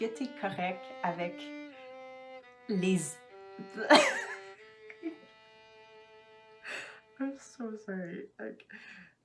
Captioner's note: laughs